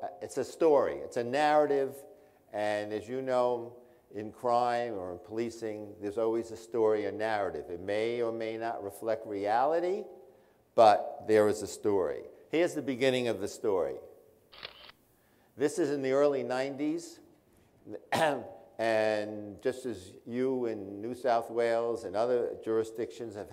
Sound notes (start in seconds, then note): 18.0 clears throat